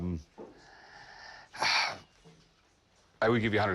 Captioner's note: sighs